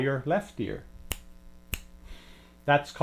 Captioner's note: snaps